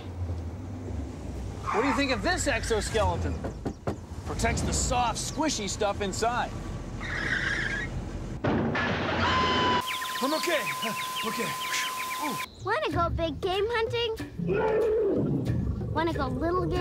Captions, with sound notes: WHAT DO YOU THINK OF THIS EXOSKELETON? PROTECTS THE SOFT, SQUISHY STUFF INSIDE. ( crash ) I'M OKAY, I'M OKAY. WANT TO GO BIG-GAME HUNTING? ( roar )